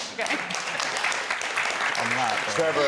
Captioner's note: audience applauding